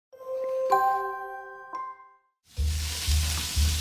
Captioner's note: chiming; sizzling